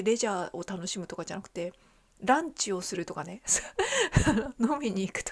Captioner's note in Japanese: 笑い